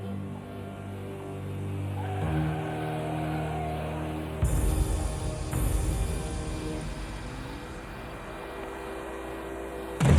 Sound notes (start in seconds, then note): 0.1 dramatic music; 2.9 tires screeching